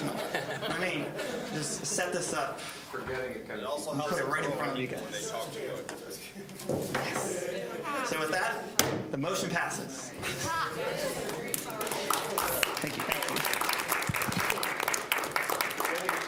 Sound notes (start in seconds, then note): 0.0 audience laughing; 3.8 general chatter; 8.7 gavel banging; 10.6 general chatter; 11.5 applause